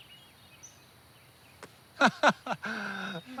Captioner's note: laughs